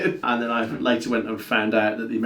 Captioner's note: laughs